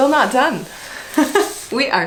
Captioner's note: laughs